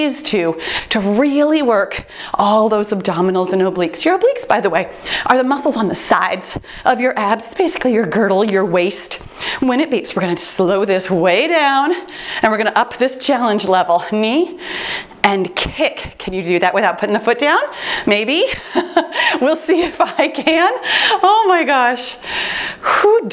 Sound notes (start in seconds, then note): 11.8 timer beeps; 18.3 laughs